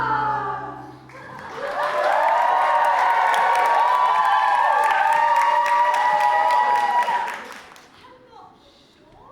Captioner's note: audience cheers